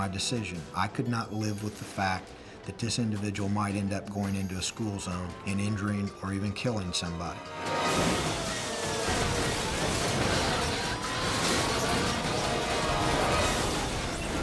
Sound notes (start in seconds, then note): 7.4 cars crashing; 11.3 dramatic music